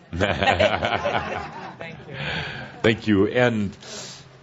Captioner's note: Tobias chuckles, audience laughter